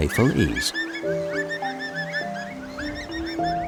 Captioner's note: dolphins sounds